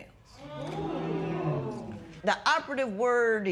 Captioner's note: spectators murmur